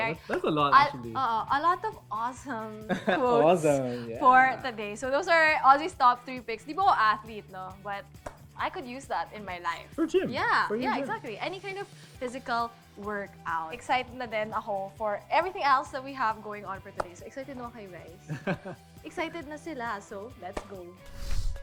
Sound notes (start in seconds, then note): 18.3 chuckles